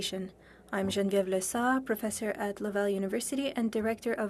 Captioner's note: speaking French